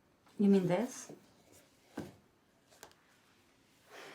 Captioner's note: none